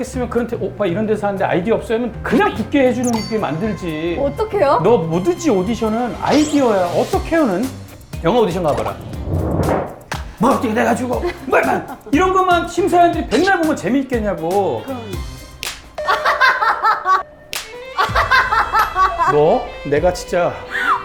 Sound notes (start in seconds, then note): 15.6 slap; 17.5 slap